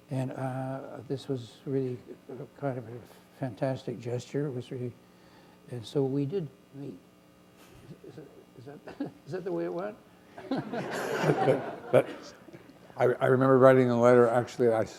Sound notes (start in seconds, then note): 10.3 laughter